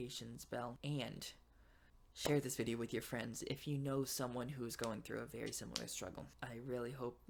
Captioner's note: claps